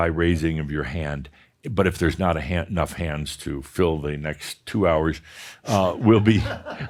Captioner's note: some chuckles